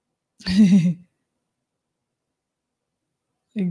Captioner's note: laughs